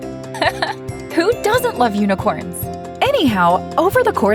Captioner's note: chuckles